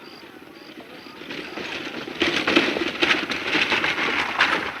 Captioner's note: rattling wheels